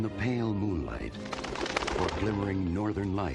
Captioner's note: wings flapping